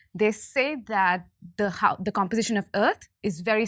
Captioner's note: none